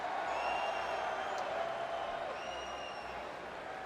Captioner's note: crowd cheers